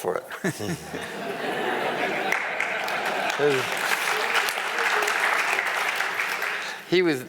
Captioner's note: crowd laughing and clapping